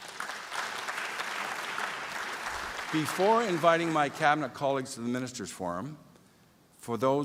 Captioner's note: applause